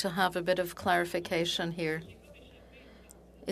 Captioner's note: speaking French